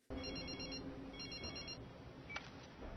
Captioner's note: phone rings